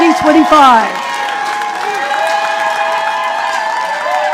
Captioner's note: audience applauding